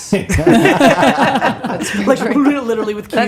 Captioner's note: all laughing